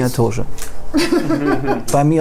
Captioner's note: laughter